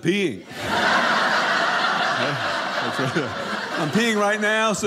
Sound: audience laughing

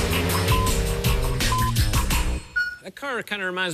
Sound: electronic beeping

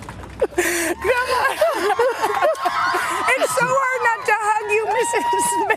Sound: cheers and applause

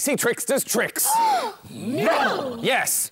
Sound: gasp!

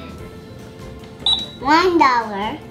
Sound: cash register beeping

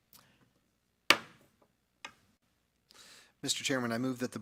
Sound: gavel clangs

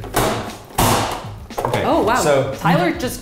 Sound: dicer slams

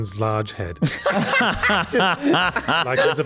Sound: laughs

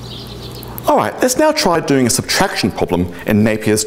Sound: birds chirping

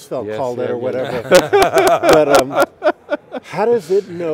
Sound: laughs

